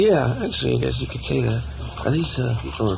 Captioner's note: voiceover